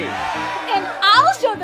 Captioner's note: boys cheering